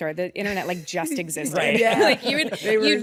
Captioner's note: chuckles